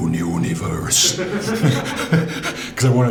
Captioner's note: laughs